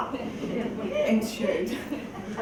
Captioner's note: laugh